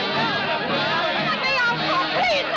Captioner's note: chatter